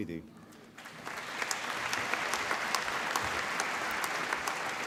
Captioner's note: applause